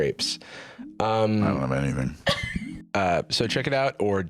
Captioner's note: laughs